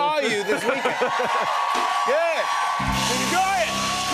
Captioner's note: cheers and applause